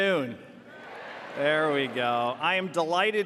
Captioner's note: audience cheers